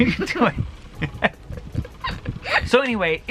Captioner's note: both giggle